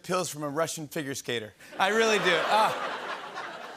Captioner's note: laughter and ohs